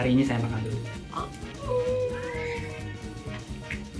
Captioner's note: cries